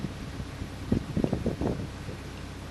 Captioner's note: sound of wind across the camera microphone; engine sounds